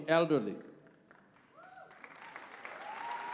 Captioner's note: applause